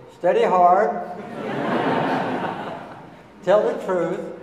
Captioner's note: audience laughing